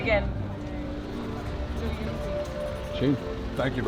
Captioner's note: marker scratching